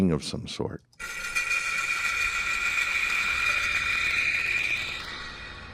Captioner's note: stopping sound